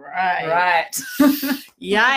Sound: laughs

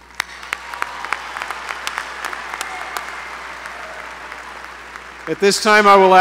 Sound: applause

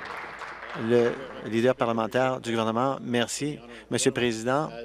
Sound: applause

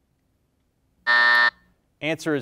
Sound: bell rings

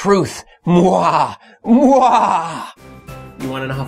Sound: maniacal Laughter

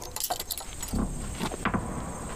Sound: keys clattering

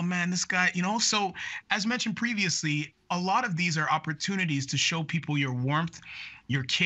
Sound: speaking in French

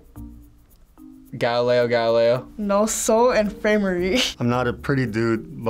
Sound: speaks in foreign language

